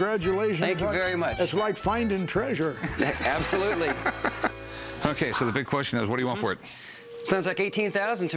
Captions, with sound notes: Thank you very much. That's like finding treasure. [laughing] Absolutely. OK, so the big question is, what do you want for it? Sounds like $18,000 to me.